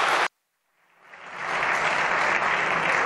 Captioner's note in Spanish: Aplausos